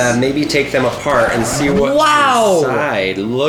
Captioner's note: record scratch